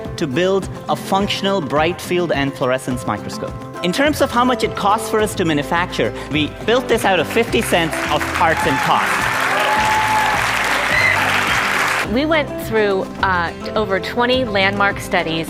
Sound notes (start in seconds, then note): 9.9 applause